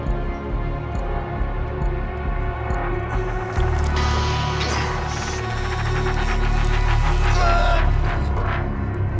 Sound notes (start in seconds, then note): 7.0 grunting